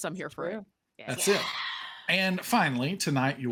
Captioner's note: cheers